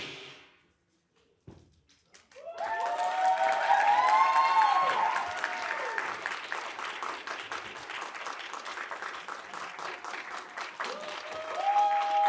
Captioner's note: applause and cheering